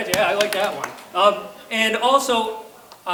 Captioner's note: clapping